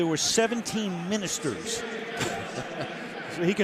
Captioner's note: laughs